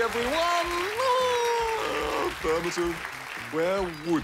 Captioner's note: applause; laughs